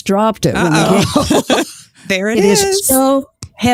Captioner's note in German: Lachen